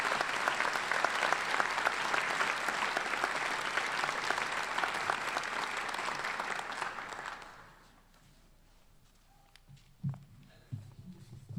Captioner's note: applause